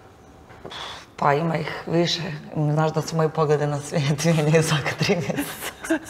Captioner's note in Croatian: smijeh